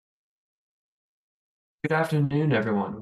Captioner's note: silence